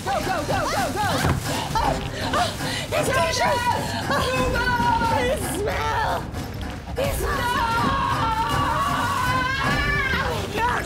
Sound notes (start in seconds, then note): 1.4 panting